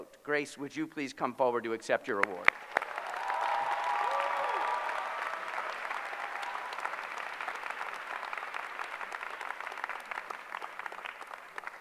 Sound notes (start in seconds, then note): 2.2 applause